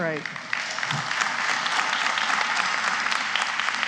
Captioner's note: applause